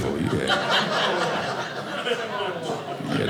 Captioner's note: audience laughing